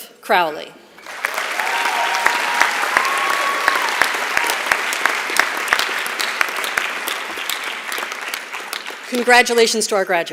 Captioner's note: applause